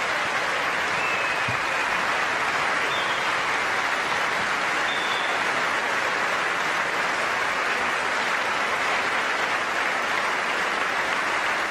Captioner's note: applause